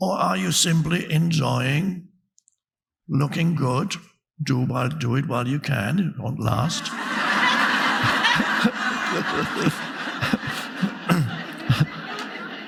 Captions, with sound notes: Or are you simply enjoying looking good? Do it while you can. It won't last. (audience laughing)